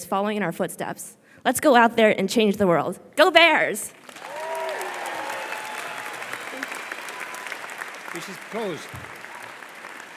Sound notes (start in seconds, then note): 4.0 audience applause